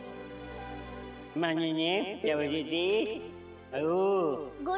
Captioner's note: Golu talking gibberish